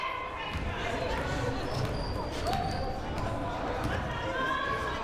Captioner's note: crowd murmuring